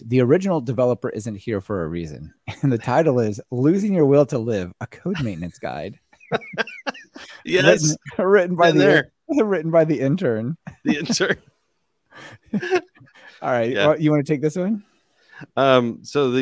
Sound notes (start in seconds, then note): 6.1 laughing